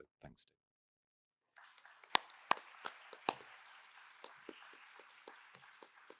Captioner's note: applause